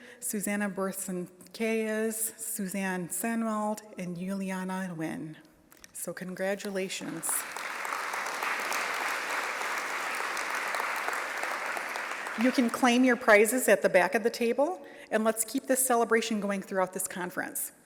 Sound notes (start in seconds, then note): 9.5 applause